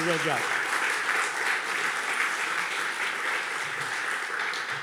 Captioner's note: audience clapping